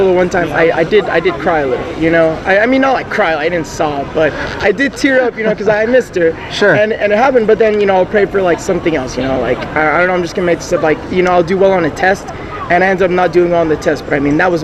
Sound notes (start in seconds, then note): 4.2 chuckles